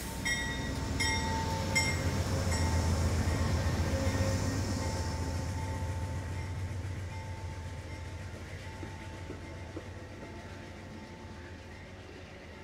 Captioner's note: bell ringing